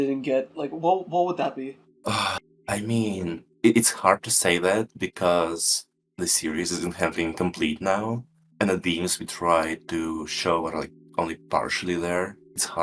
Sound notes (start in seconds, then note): 2.0 sigh